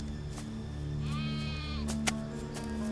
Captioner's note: goat bleats